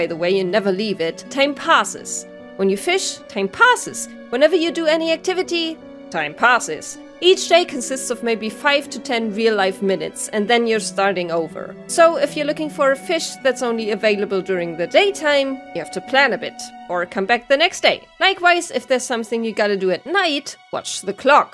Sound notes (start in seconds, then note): none